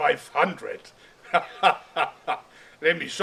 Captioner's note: hahahaha